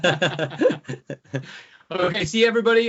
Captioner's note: laughing